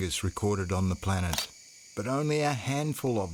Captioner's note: shutter clicks